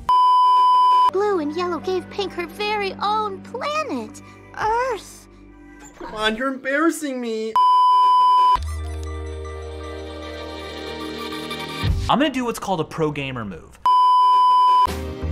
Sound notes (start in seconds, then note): 0.0 beeeeeep; 7.6 beeeeeep